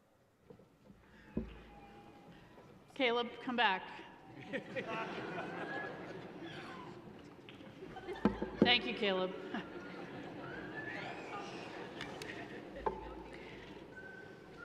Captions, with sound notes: - Caleb, come back. (laughs) Thank you, Caleb.